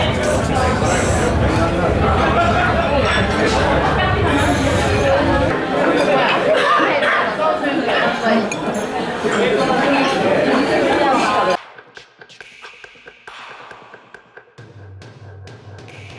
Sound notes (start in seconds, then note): 6.5 coughing